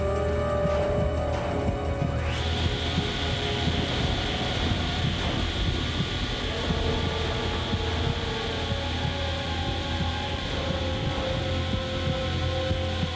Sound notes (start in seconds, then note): 2.1 buzz saw